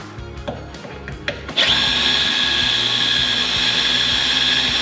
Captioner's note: drilling metal